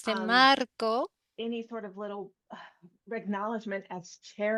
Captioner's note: hablando inglés